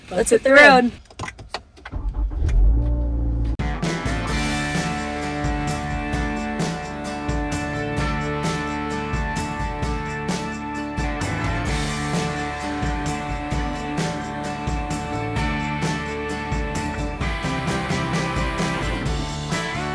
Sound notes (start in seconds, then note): 2.4 engines roaring; 4.6 bright music